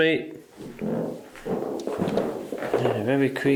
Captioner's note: creaky floorboards